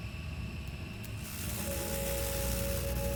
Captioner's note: electricity noises